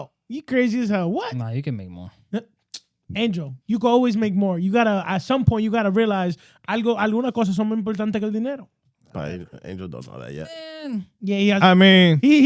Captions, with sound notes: You crazy as hell, what? Nah, you can make more. Angel, you can always make more. You gotta, at some point, you gotta realize, (Speaking In Foreign Language) I mean--